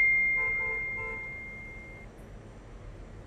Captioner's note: msg notification tone